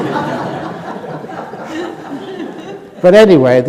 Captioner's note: laughter